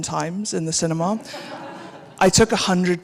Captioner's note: audience laughing